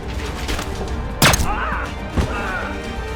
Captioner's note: papers clattering; gun firing; Heinz crying out; Heinz groaning